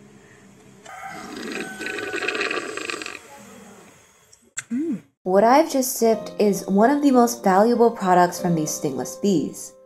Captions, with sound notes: *loud slurping sound* um What I have just sipped... is one of the most valuable products from these stingless bees,